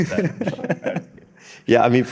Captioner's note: everyone laughing